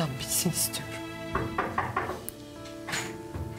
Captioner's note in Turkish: kapi çaliyor